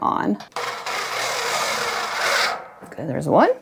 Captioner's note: machine whirring